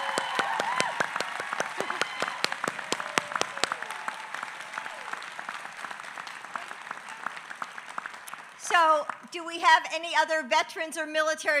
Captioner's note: applause